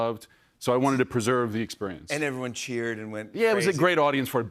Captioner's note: none